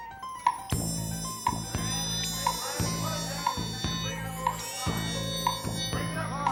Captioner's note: timer ticking